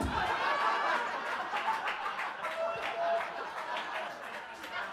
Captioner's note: audience laughing